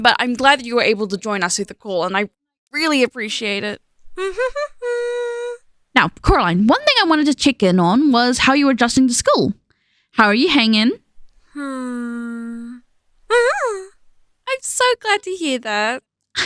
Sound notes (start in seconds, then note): 4.1 happy hum; 13.2 excited hum